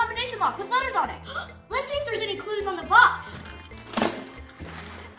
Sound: gasps

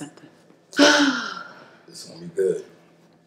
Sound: sighs loudly

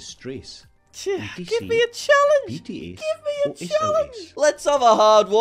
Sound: high pitched

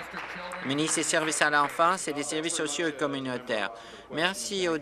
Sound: applause

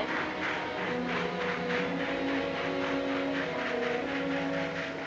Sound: train chugging

